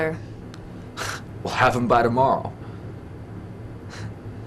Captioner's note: Bad Sean Connery impression